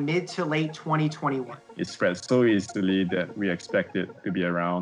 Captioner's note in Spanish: hablando en inglés